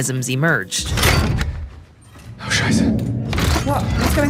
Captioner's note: vault clinks